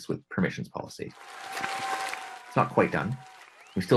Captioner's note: applause